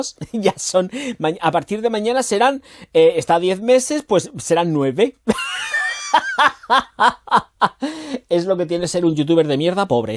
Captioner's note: laughs